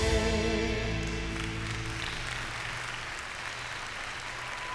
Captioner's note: music fades; applause